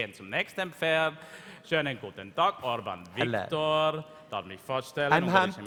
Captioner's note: speaking in German